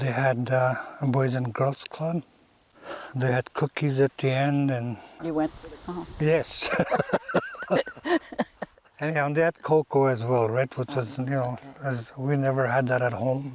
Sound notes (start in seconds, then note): 6.6 laughs